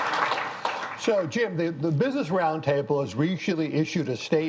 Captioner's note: applause